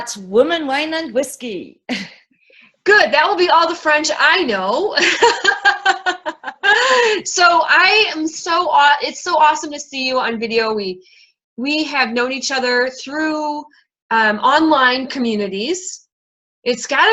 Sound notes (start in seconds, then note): 5.0 laughing